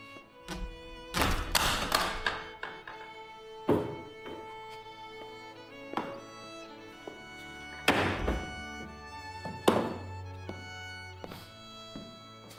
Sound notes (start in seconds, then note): 0.5 banging